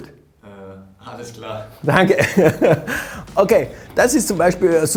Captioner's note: laughs